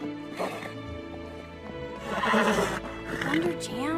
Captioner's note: neighs loudly